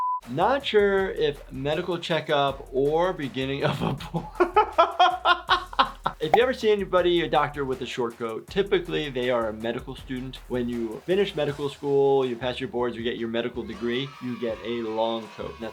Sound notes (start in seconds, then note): 3.6 doctor laughing